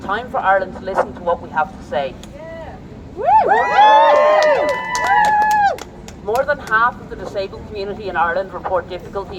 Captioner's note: applause